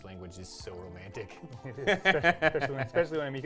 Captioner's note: laughing